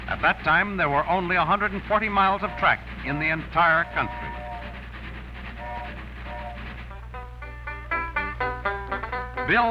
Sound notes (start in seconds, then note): 4.5 train rattling and whistling; 6.8 banjo melody